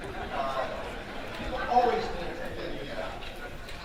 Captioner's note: audience laughing